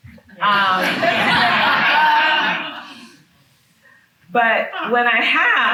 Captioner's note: attendees laughing